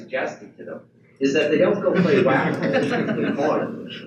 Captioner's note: audience laughs